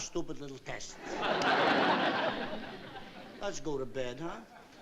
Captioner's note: laughter